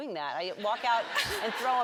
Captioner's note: audience laughs